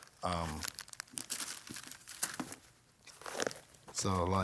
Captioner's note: crinkling